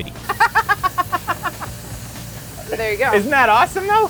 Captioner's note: laughs